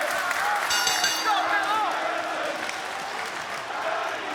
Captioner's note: bell rings